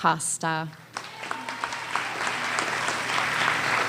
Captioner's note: applause